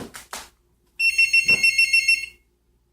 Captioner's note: phone ringing